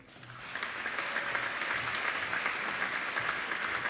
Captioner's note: applauding